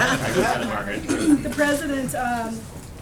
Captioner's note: laughter